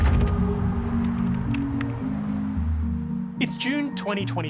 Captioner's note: dramatic music; letters clacking